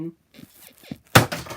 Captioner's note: bed squeaks